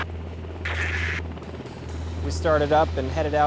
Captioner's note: static